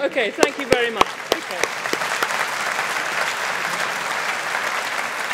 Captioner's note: audience applauding